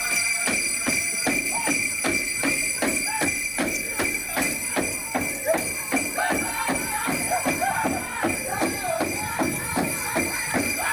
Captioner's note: speaks a native american language